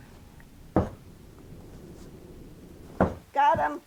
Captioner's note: boots thud